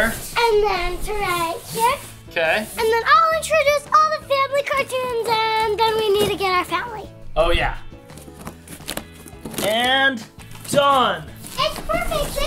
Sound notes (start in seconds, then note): 8.1 cardboard crunching